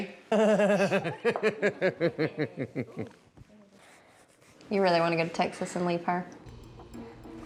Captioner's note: chuckles